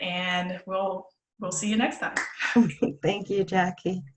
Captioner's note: laughs